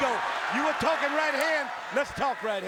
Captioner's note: crowd cheering